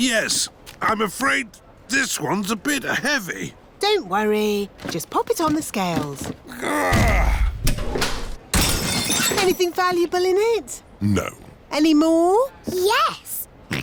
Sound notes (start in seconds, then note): 6.5 grunts; 8.6 crashes